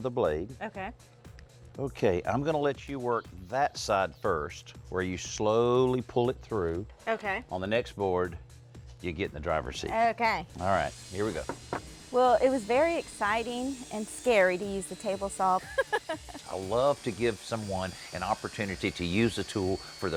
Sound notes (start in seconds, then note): 15.6 laughs